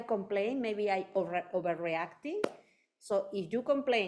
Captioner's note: hands clapping